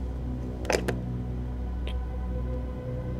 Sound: suspenseful music; lid clicking; eerie music

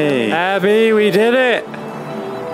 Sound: yelling

